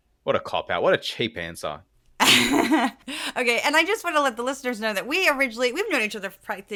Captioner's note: laugh